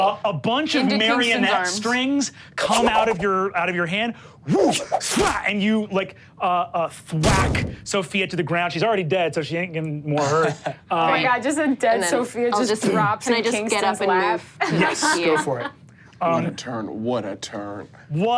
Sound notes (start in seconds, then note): 4.7 whips air; 14.6 Sofia laughs